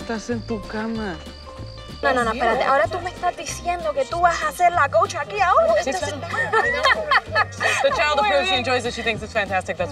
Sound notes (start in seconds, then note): 2.1 Esti and Lupe speak in Spanish; 5.8 Esti laughs